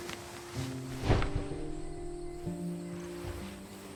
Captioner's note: rustling of bedding